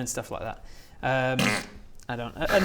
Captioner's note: pfft